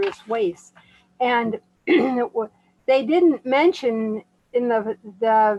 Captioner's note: clear throat